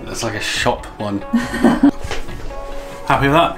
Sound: laughs

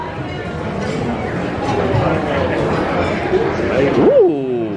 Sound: buzz of busy restaurant

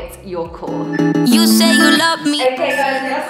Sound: timer beeping

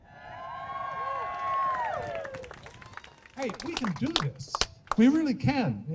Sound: crowd cheering

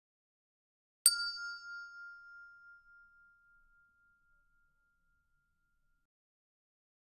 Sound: sound hand bell

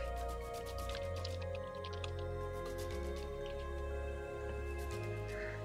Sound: typing

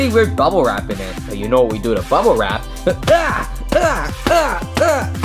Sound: grunting

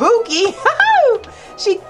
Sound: laughs

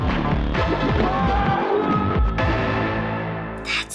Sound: boss screaming

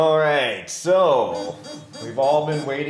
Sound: electrical beeping

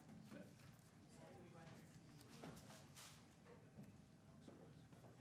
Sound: people chattering faintly

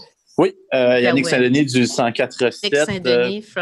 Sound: speaking French

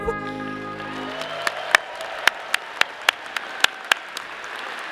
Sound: audience applauding

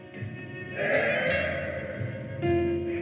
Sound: sighs

